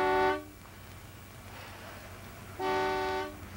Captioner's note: horn blasting